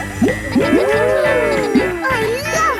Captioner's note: kids gasping and laughing